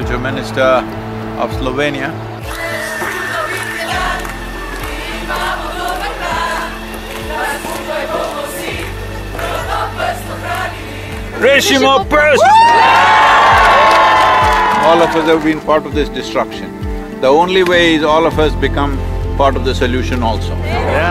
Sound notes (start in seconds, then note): 8.6 speaks in Slovenian - not transcribed; 12.2 cheering